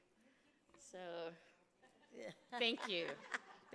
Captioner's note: woman speaks off mic